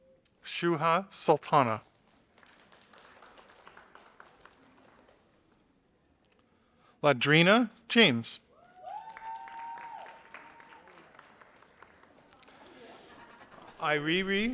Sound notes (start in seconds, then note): 1.5 audience applauding; 8.6 audience applauding